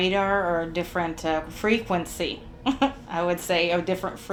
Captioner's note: chuckles